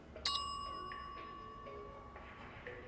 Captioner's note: bell dings